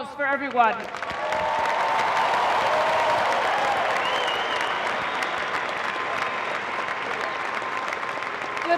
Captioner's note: cheering and applause